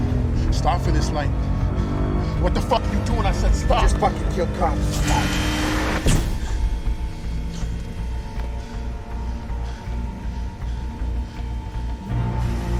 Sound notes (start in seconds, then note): 8.4 continues panting